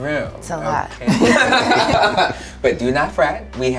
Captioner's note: all laughing